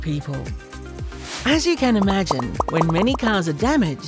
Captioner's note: bubbles bursting